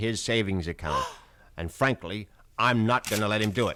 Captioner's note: gasps